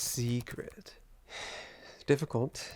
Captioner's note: Kyle exhales